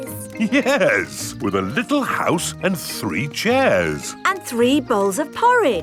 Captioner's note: chuckling